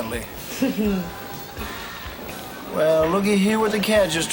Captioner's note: giggling